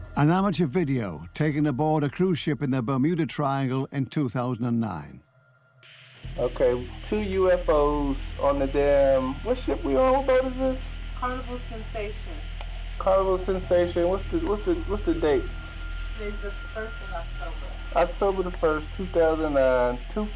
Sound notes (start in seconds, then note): 6.2 man on recording; 11.2 woman on recording